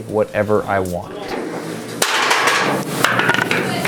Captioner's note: loud clatter